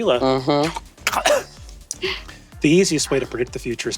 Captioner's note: Brennan coughs uncomfortably